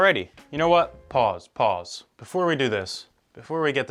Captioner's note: none